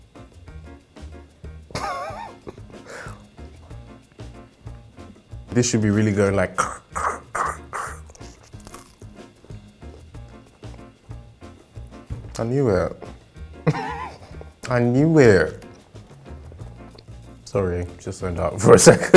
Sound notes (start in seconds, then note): 1.7 laughing